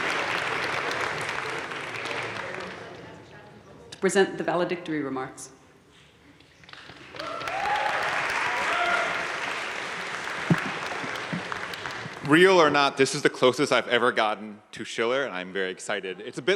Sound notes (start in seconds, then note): 3.5 faintly speaking; 6.8 crowd cheering and applauding